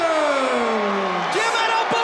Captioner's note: audience cheers